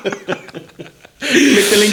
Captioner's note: laughing